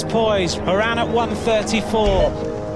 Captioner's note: radio beeps